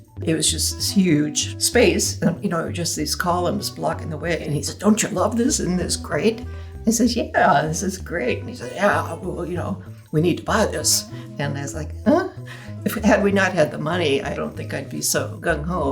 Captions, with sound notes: It was just a huge space, you know, it was just these columns blocking the way. And he said, "Don't you love this? Isn't this great?" I says, "Yeah, this is great." And he said, "Yeah, you know, we need to buy this." And I was like, *gasp* If we had not had the money, I don't think I'd be so gung ho.